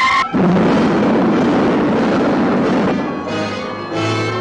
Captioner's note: rocket rumbling